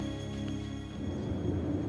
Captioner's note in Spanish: viento que sopla